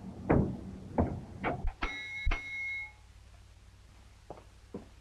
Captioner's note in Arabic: يرن الجرس